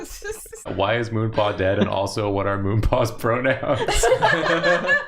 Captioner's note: giggling; chuckling; laughing; reading chat, laughing